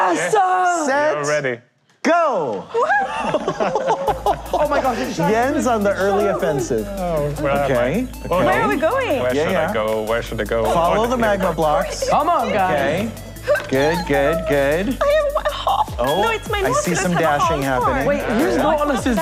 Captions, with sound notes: Yes, sir! -Yes, we're ready. -Ready? Set. Go! [Laughing] Oh my gosh, it's shiny. Jens is on the early offensive. -Right? -Where are we going? Where should I go? Where should I go/ Follow the magma blocks. Come on guys! -Good, good, good. -Oh, I have one heart! No, it's my Nautilus has a half heart.